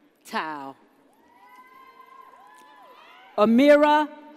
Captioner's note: audience cheers